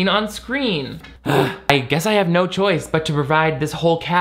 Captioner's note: sighs exasperatingly